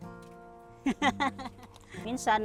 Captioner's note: laughs